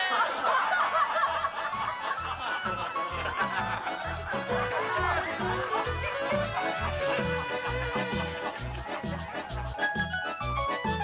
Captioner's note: laughter